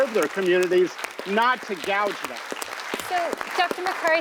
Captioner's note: audience clapping